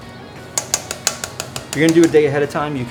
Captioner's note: container tapping